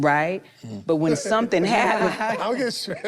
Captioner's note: group chuckles